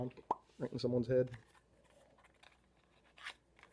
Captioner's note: pop